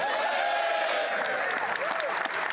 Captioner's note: applause